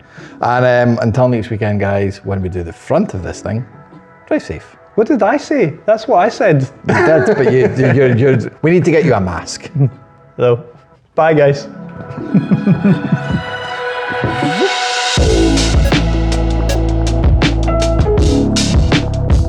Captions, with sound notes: And until next weekend, guys, when we do the front of this thing, drive safe. What did I say? That's what I said. You did, but we need to get you a mask. Hello. Bye guys. (laughs)